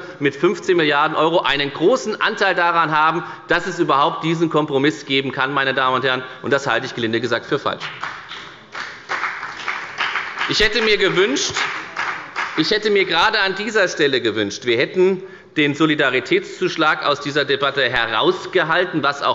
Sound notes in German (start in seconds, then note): 7.8 Beifall bei der FDP